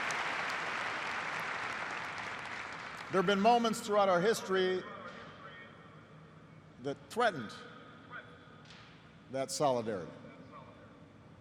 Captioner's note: applause